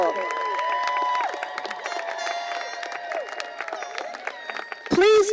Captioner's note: cheering